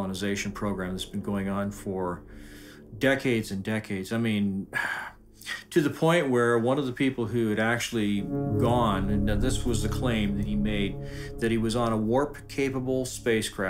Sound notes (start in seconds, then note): 4.7 sighs